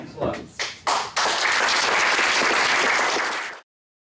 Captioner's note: applause